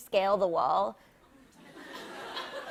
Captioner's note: laughter